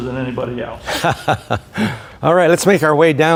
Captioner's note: laughing